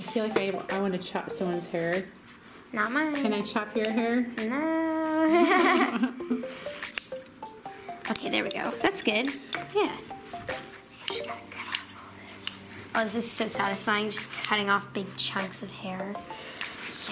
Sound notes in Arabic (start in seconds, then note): 5.2 ضحكات